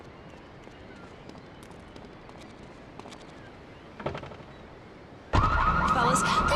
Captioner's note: sirens wailing